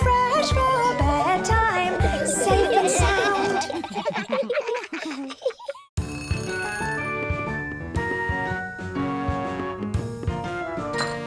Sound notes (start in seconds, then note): 2.0 laughter